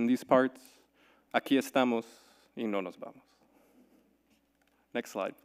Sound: speaking in Spanish

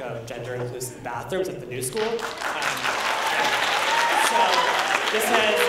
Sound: applause

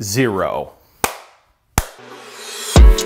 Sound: clap; upbeat music

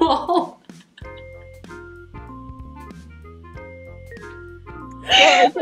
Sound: laughs

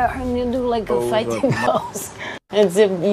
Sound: chuckles

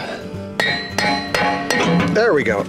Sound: metal clinking

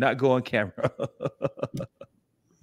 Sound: laughs

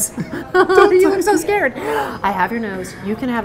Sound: laughing

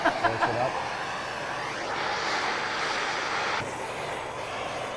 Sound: torch whooshing

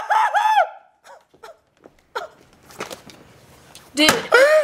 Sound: gasping

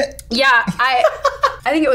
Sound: laughing

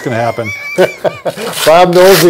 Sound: both laughing

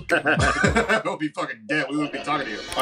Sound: laughing

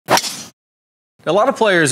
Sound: golf club hitting

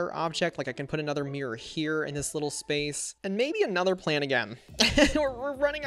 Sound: laughs

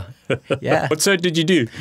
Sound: laughing

